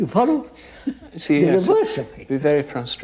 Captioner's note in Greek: γέλια